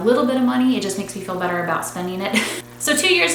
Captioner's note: laughs